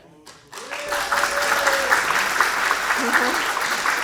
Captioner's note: audience clapping